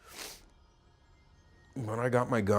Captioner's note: sniffing